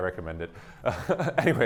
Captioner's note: laughter